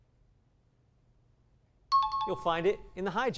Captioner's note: high-pitched tones